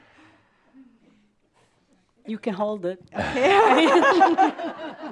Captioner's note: laughter